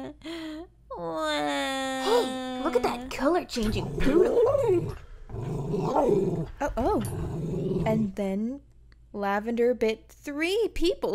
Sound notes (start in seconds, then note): 3.4 growling